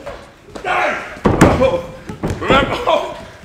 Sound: man grunts

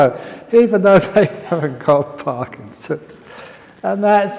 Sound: laughs

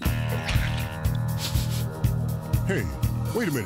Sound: sniff sniff sniff

